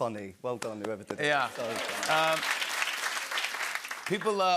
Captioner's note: cheers and applause